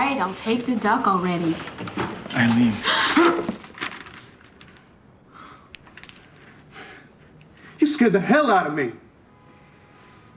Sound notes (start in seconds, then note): 2.8 gasps